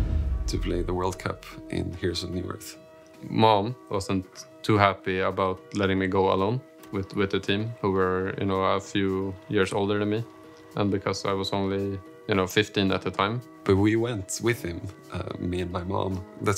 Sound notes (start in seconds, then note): none